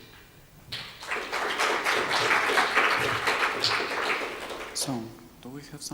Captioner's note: audience applauding